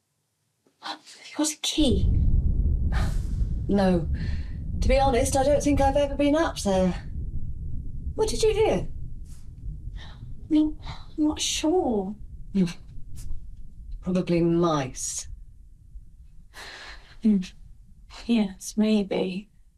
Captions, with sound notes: Have you got a key? [THUNDER] No. To be honest I don't think I've ever been up there. What did you hear? I'm not sure Probably mice. Yes maybe